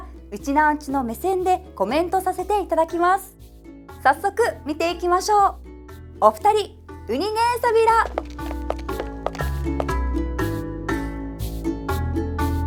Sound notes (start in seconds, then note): 7.0 in Okinawan